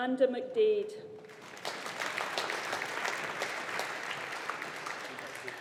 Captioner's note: audience applauding